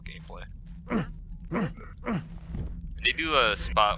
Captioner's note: Garrett grunts repeatedly